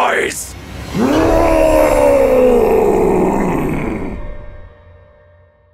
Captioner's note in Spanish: rugido